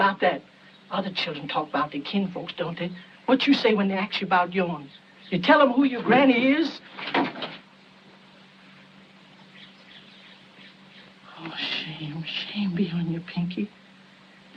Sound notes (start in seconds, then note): none